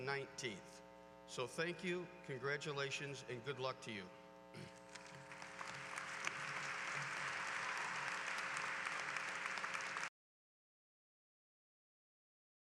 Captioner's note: applause